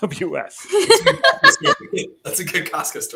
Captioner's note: laughing